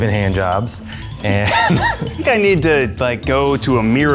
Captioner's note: laughs